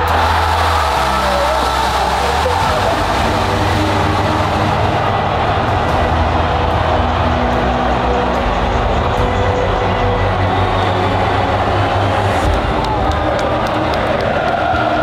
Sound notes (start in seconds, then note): 0.1 crowd screaming; 12.8 crowd chanting